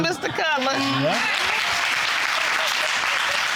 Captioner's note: audience applauding